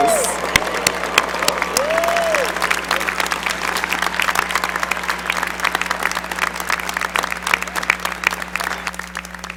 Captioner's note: cheering and applause